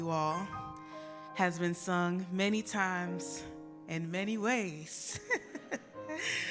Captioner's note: laughing